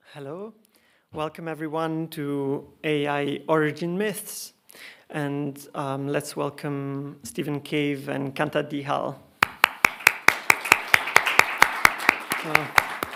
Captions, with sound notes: - Hello. Welcome, everyone, to "AI Origin Myths." And let's welcome Stephen Cave and Kanta Dihal. (clapping) (attendees applauding)